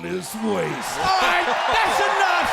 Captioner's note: audience cheers